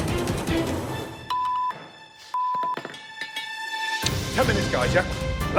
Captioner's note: beep beep